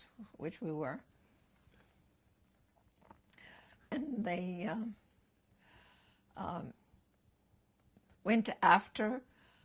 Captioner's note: pauses for 3 seconds